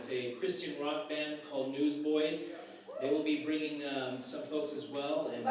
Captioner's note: cheer from crowd